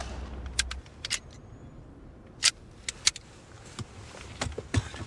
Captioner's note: gun clicking